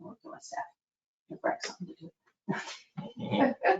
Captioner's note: laughs